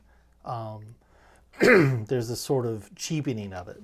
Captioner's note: clears throat